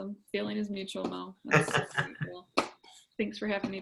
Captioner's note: laughs